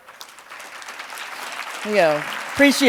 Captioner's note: audience clapping